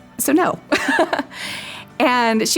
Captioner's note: laughs